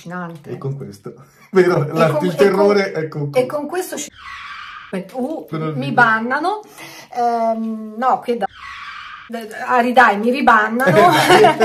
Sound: laughter

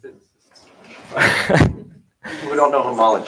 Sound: chuckling

